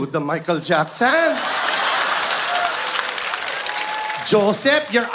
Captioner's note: audience laughs